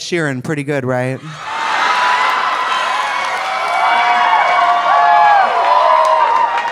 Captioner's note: audience cheering; audience applauding